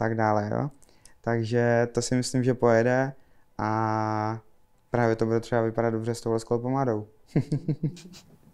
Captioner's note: laughs